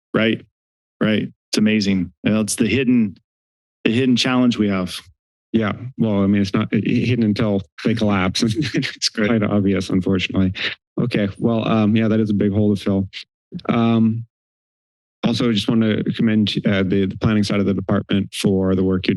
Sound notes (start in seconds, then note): 7.8 laughter